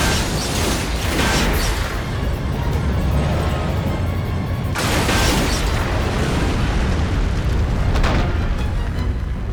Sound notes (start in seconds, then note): 0.2 explosions booming; 4.8 explosion booming